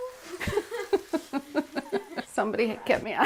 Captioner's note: laughs